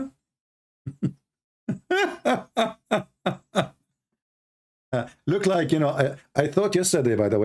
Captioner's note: Ketawa